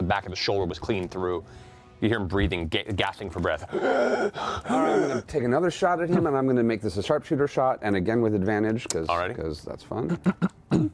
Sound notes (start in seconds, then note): 3.6 gasping